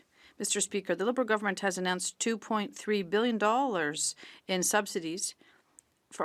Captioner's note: speaking French